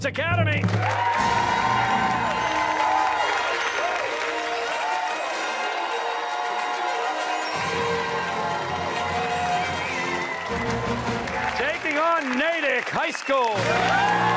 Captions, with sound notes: we have Phillips Academy... (fanfare plays) (cheers and applause) ...taking on Natick High School.